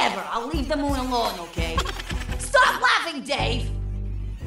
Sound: minion laughs

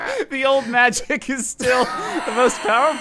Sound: laughing; laughing

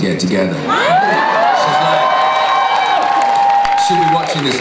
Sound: audience cheers

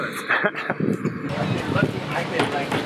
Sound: off-camera laughing

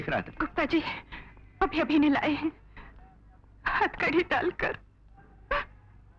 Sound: sobbing

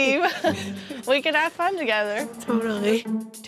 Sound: chuckles

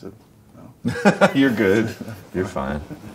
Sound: laughs

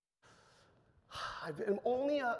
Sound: sighs

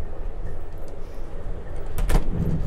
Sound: door clicks shut

